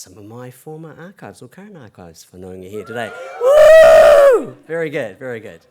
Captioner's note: cheering